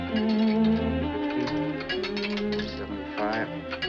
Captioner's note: coin clatters